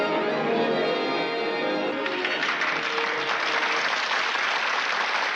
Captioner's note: applause